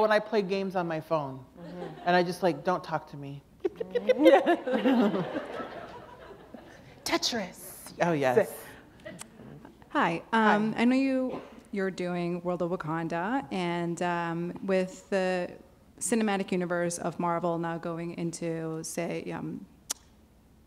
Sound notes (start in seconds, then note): 8.9 laughter